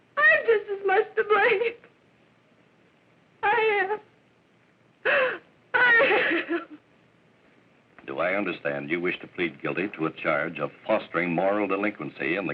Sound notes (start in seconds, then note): 2.6 sobbing; 5.7 crying